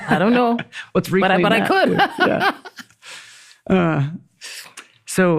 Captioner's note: laughs